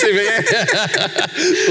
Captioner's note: laughs